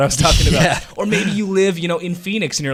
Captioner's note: laughs